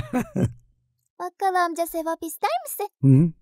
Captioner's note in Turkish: gülüyor